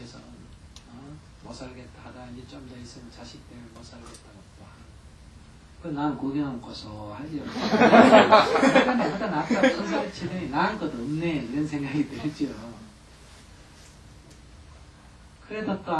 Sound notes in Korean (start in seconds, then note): 7.4 청중 웃음